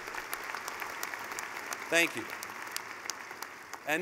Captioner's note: clapping